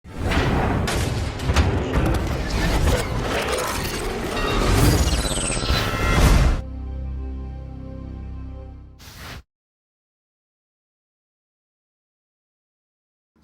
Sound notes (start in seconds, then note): 0.8 electronic crashing; 6.6 calm music